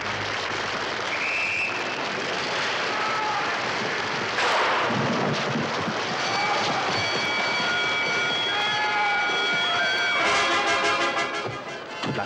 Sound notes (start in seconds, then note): 1.1 whistle shrills; 4.3 gunshot bangs; 6.1 bell ringing